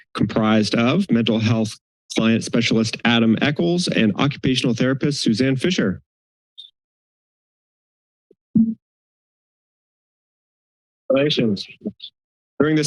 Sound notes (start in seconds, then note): 6.2 silence; 8.6 mic thump; 9.2 silence